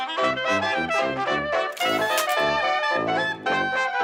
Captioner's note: sfx: typewriter carriage return